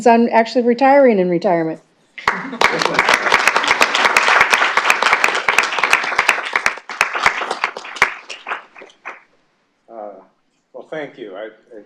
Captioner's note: clapping